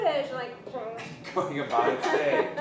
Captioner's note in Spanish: risas